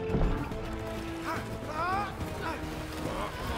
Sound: grunting, shouting

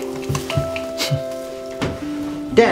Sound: sniffs

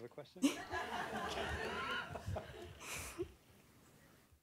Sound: audience laughing

